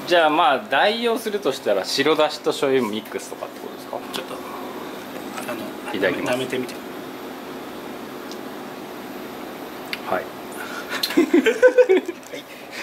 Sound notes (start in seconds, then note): 10.9 laughs